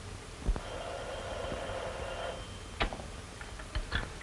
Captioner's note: phone ringing